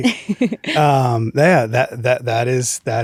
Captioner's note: laughs